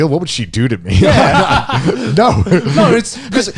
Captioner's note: laughs